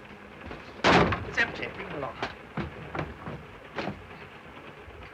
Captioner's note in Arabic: انفجار; صوت ارتطام الجذع